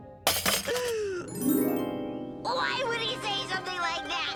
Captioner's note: hairdryer rattles; Milo sobs